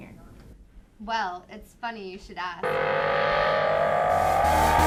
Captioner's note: magical sounds